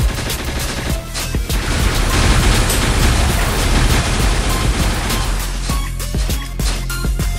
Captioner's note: shockwave